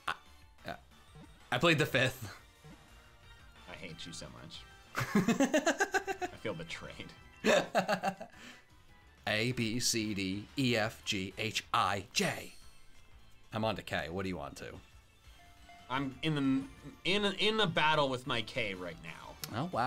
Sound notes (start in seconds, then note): 4.9 laughs